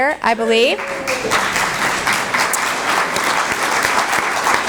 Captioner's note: applause